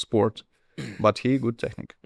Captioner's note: clears throat